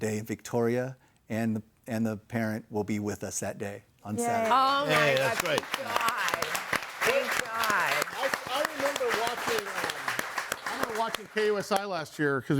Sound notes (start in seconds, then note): 7.9 audience applauding